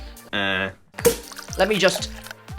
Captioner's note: champagne pop